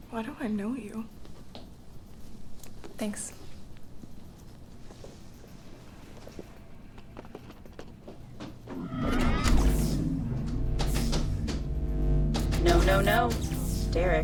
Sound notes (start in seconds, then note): 4.1 suspenseful music continues; 8.7 electricity whooshing; 8.8 electricity fizzing